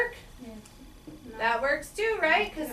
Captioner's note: voiceover